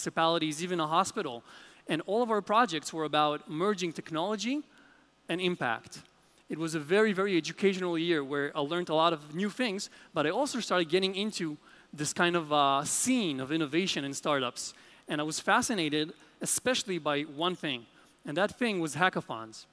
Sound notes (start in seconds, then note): none